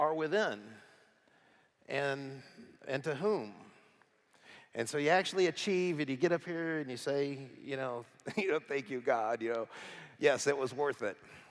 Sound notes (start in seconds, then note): none